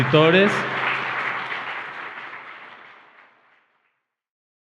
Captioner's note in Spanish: Aplausos